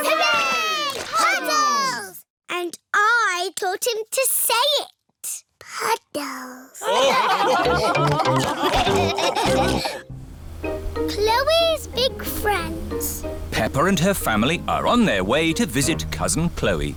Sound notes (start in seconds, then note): 6.8 laughter